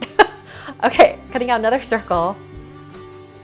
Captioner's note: laughs